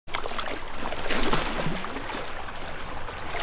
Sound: water splashing

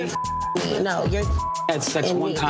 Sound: beeps

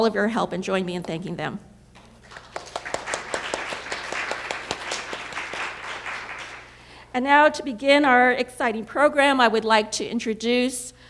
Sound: applause

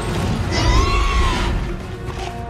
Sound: growls

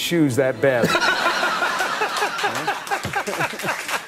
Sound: all laughing

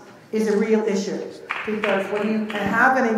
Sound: clapping

